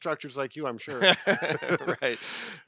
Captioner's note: laughs